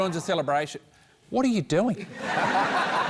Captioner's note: laughter